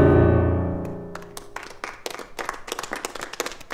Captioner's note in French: applaudissements